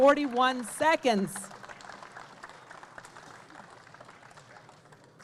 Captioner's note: audience clapping